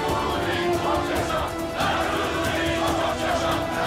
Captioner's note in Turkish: Hep bir ağızdan